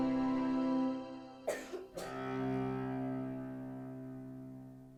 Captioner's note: coughing